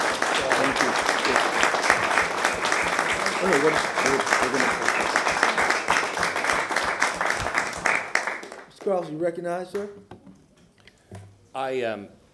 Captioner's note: applause